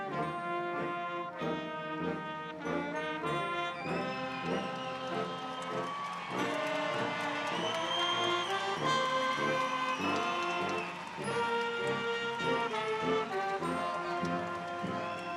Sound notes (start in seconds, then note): 5.2 audience cheering